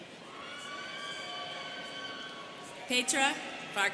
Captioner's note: students cheering